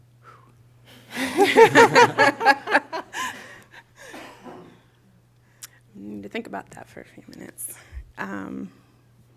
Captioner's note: laughter